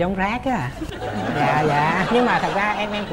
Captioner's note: laughing